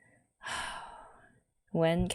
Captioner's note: sighs